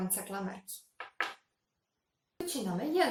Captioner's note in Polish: dźwięk odkładanej klamerki na stół